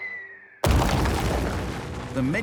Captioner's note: whistling; crash